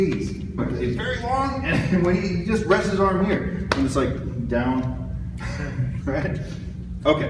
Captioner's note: chuckles